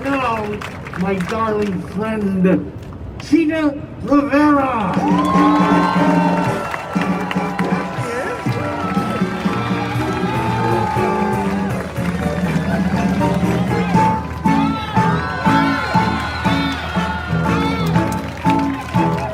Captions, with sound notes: And now my darling friend Chita Rivera! (crowd cheering) (upbeat music)